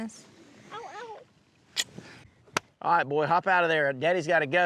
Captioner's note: smooch